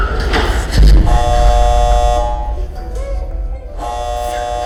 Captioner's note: alarm buzzing; doors closing; alarm buzzing